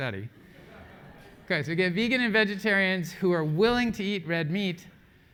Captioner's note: laugh